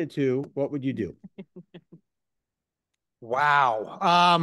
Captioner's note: laughs